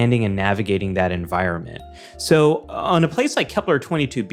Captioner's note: none